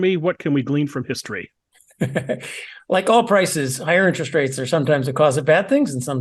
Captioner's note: laugh